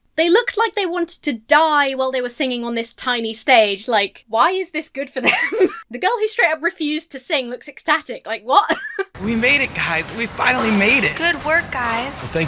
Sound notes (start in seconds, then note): 5.2 laughs; 8.5 laughs